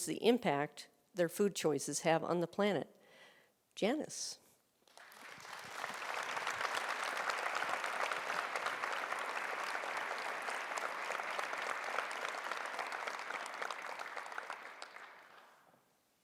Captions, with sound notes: the impact their food choices have on the planet. Janice? (audience applauding)